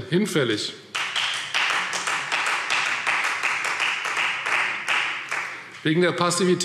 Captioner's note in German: Beifall Freie Demokraten